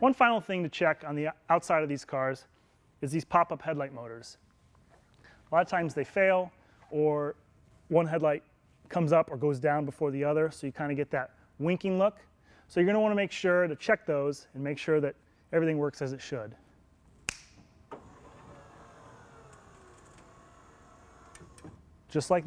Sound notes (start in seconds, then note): 17.2 snap; 18.0 headlight motors whirring